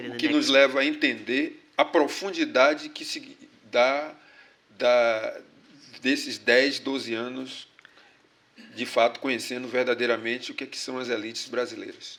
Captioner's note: speaking portuguese